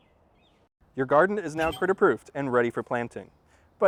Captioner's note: ding